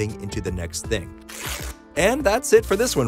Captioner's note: page tearing